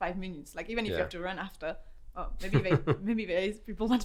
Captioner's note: laughs